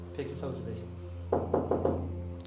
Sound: knocks on the door

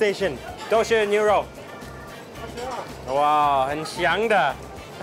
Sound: speaks in Chinese

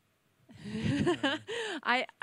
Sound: laughs

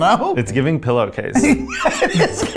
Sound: laughing

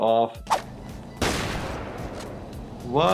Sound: gun firing

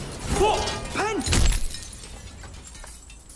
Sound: thud

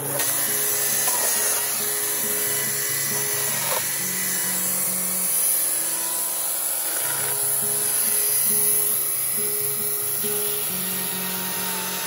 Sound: electric chainsaw sound

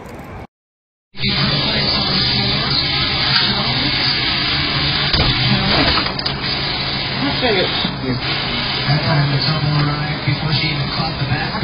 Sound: TV plays in background

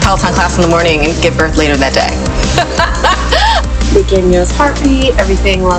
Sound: laughs

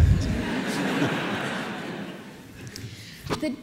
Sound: laughter

